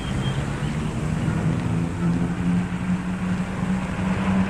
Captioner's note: engine rumbling